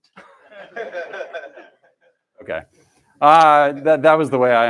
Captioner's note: laughter